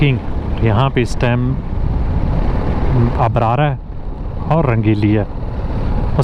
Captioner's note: motorcycle